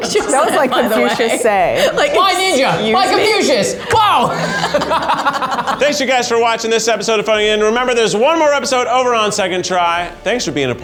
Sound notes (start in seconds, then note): 5.0 everyone laughs